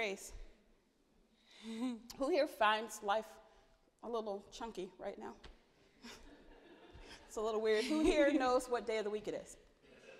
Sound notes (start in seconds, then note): 6.3 audience laughing